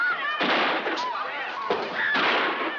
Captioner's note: screaming